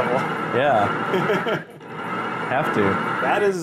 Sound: laughs in the background

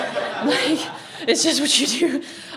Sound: audience laughs

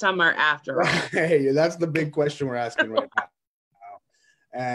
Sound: laughs

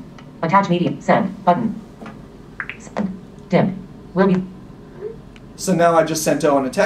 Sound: "message sent" tone

